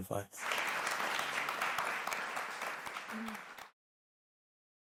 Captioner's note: audience applauding